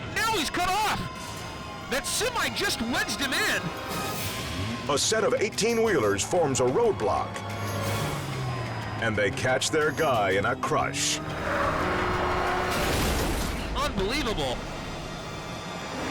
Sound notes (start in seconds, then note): 11.2 car crushes